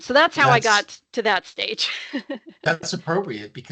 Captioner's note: laughing